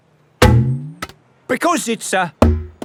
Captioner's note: thunks